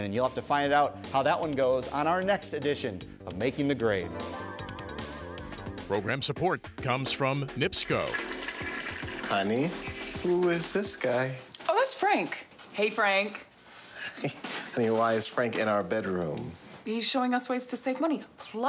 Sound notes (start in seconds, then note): 7.6 toilet flushes